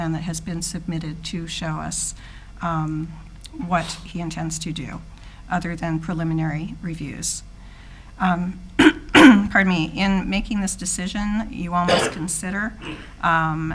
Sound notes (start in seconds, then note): 8.8 clears throat